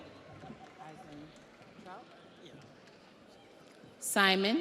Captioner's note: audience applauds